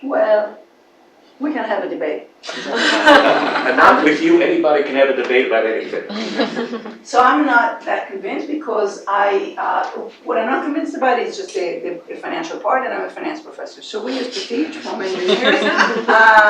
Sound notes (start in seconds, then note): 2.4 laugh